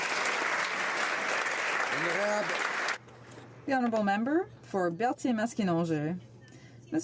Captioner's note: applause